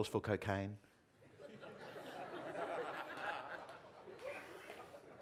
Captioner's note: audience laughing